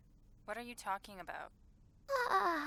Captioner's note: yawns